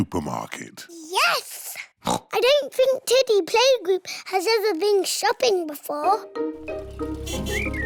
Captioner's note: oinks